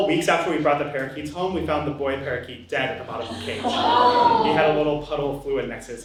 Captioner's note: audience gasps